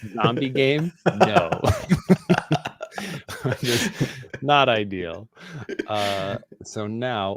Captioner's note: laughing